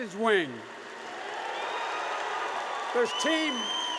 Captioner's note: applause